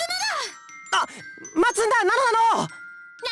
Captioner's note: gasp